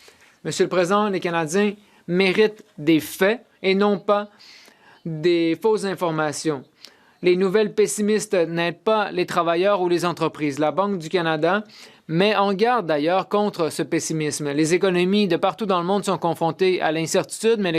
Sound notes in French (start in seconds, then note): 1.4 voix de l'interprète